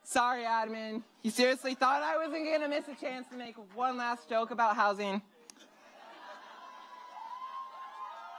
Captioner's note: cheers